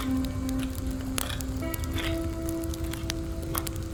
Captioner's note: quiet music continues; stone scraping